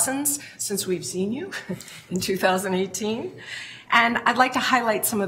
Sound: chuckles

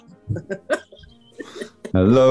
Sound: chuckling

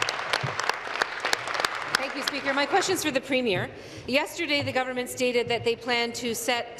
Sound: applause

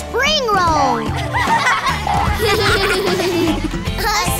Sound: laughing

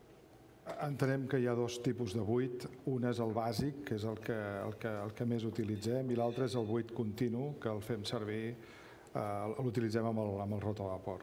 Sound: speaking catalan

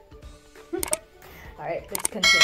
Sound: laughing

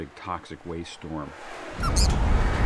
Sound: wind howling; squeaks

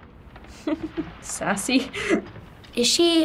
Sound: chuckles

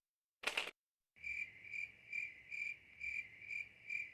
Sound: crickets chirping

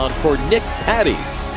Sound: crowd cheers

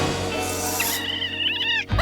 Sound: chitters; screaming

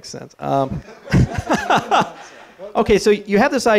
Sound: laughter

